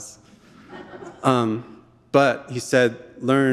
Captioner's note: audience laughing